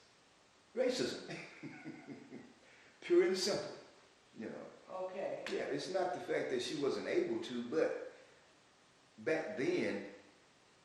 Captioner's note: laughs